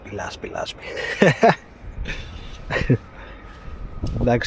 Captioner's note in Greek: γέλια